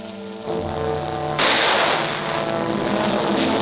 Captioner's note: gunshot